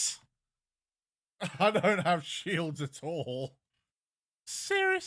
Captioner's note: laughs